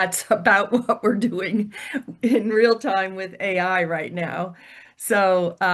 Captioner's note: laughs